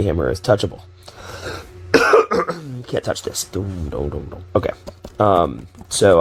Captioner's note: hums ditty